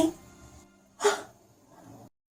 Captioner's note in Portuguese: Suspiro